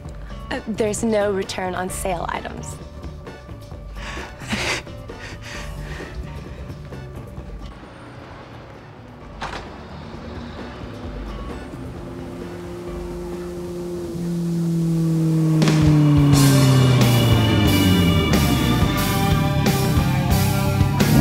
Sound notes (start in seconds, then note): 4.0 moans; 12.7 motorcycle Approaching